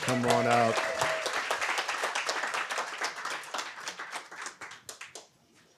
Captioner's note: audience applauding